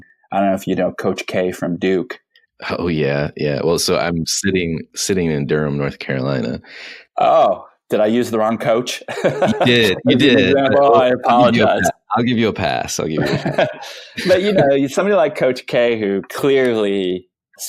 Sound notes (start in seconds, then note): 8.9 laughing